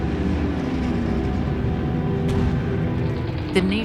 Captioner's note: planes flying, explosions echoing